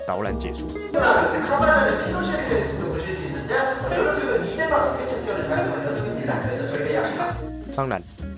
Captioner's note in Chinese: 韓語